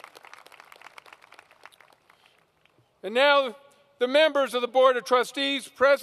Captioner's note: applause